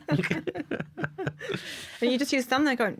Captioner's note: laughter